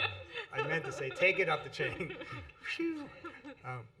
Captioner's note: laughter